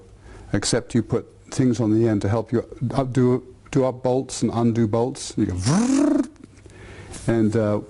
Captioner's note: drill noise